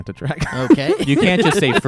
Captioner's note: laughs